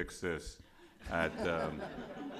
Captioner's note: laughter